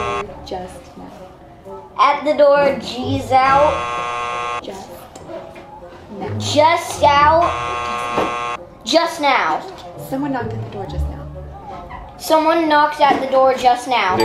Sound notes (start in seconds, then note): 3.3 buzzer buzzing; 7.2 buzzer buzzing; 14.0 bell dinging